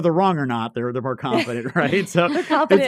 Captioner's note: everyone chuckling